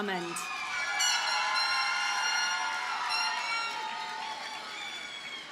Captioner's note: audience cheers and applauds